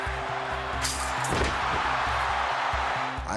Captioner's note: crowd cheering; fence rattling